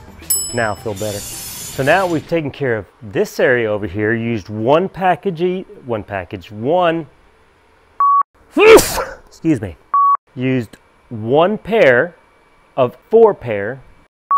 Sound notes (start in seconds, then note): 0.2 bell ringing; 8.0 beeping; 8.5 sneezing; 9.9 beeping